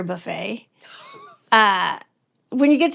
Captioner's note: laughs